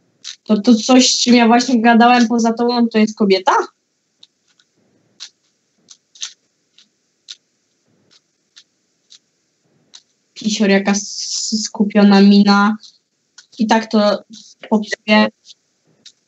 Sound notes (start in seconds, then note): 3.7 Sounds of the Rubik's Cube